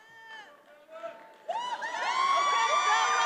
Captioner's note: attendees applauding and cheering